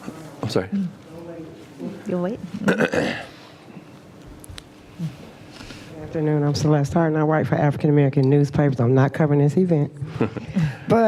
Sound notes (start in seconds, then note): 2.6 cough; 9.5 laugh